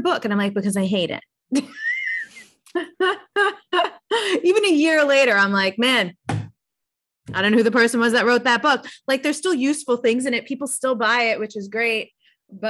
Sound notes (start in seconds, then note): 2.6 laughs